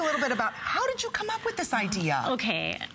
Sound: laughter

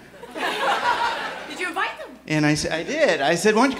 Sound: laughter

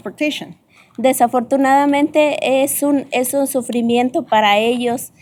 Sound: speaking spanish

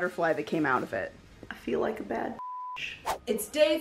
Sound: beep

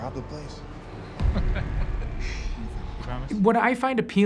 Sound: laughs

